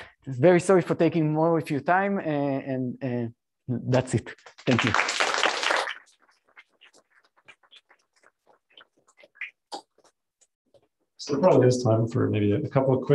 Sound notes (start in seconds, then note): 6.8 applause